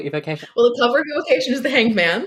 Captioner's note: laughing